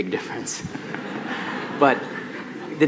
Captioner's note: laughing